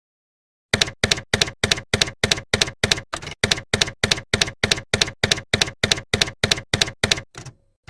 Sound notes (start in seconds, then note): 0.8 typewriter keys clacking